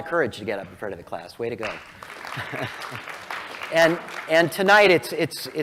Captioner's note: applause